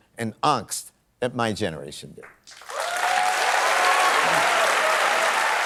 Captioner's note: applause